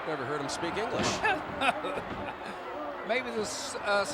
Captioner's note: Lord Alfred Hayes laughs